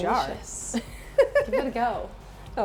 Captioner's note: Brandi laughs